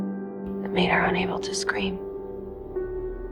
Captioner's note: voiceover